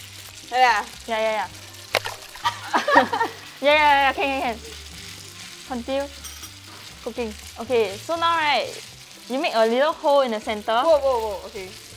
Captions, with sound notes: Like this? Yeah yeah yeah. (Laughs) Yeah yeah yeah, can can can. Contrinue... cooking. Okay, so now right, you make a little hole in the centre, Woah woah woah, okay.